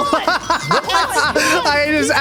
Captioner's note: laughing